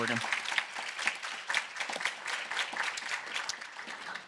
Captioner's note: audience applauding